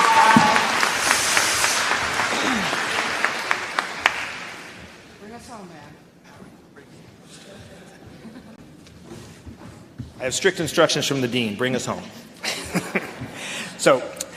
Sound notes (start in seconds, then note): 1.6 applause